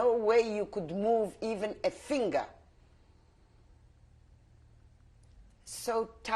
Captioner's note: pauses for 3 seconds